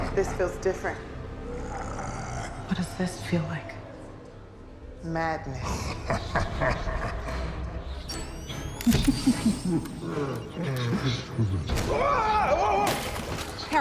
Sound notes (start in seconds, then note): 5.6 ghoulish laughter; 9.0 camera clicking; 11.9 yelling